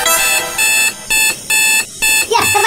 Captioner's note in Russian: звук тревоги